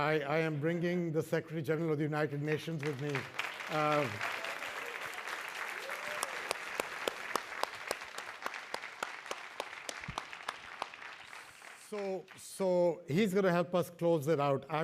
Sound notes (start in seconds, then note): 2.4 applause